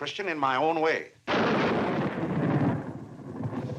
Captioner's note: thunder crashing